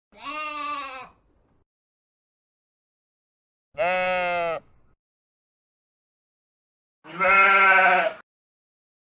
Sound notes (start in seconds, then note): 0.1 sheep baa 🐑; 3.7 another sheep baas; 7.0 fake-sounding sheep baas majestically